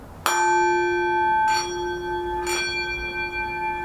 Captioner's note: singing bowl chimes